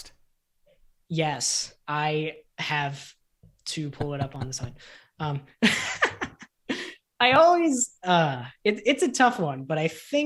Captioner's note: laughter